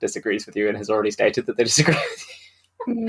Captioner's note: laughs